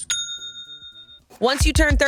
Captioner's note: cash register dings